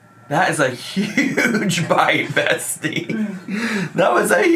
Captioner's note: laughing